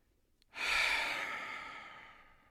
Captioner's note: sighs